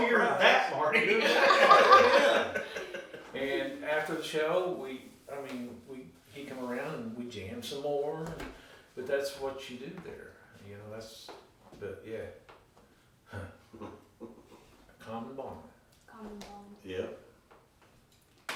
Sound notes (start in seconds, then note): 1.9 laughing; 13.3 sighing